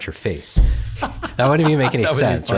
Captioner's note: laughs